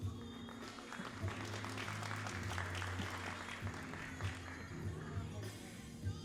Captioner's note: all applauding